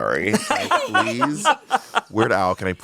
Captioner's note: everyone laughs